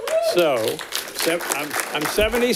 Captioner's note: audience clapping